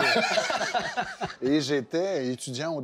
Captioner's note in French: rires